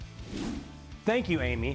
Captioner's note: air whooshing